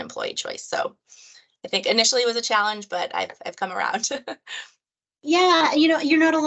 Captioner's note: laugh